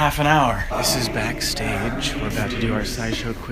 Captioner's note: whispering